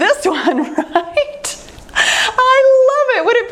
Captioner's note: laughs